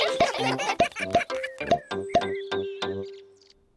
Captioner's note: all giggling